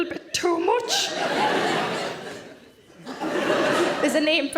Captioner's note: audience laughing